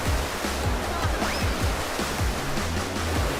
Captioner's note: falling into the water